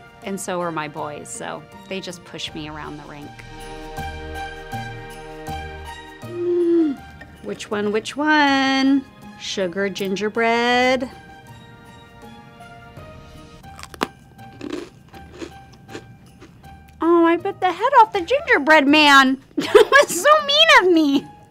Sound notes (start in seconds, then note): 13.6 cookie crunching